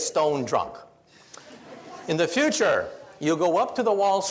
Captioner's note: audience laughs